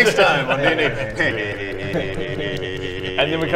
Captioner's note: silly noises from four "adults"